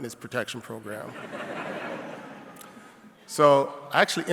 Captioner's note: audience laughing